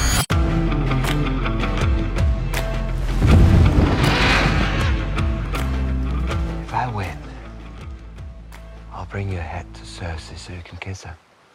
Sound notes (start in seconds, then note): 0.1 up-beat music plays; 3.6 roars